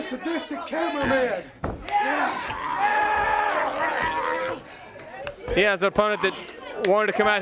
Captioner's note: crowd chatter